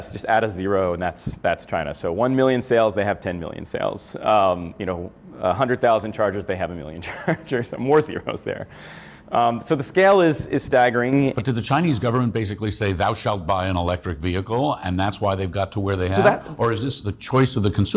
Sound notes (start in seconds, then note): 7.6 laughs